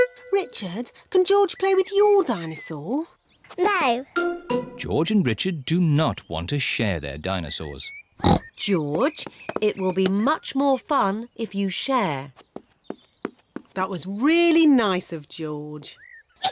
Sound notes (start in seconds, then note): 8.2 oinks